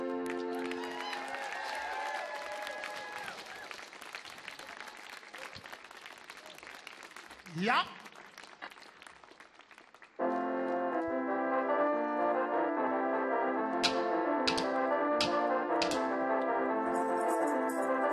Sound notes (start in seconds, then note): 0.1 audience clapping; 0.4 audience cheering; 7.6 man speaking in language other than English; 10.2 upbeat music